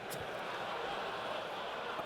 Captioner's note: laughter